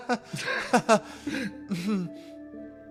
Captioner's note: awkward Laugh